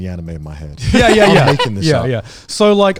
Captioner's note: laughing